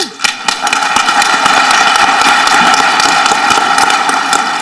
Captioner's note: audience clapping